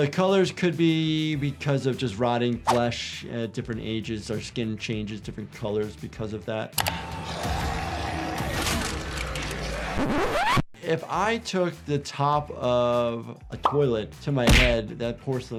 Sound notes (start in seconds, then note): 7.2 zombie growling; 9.5 disc scratching